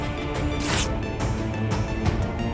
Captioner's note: intense battle music; paper ripping